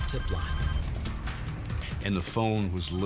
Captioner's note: phone ringing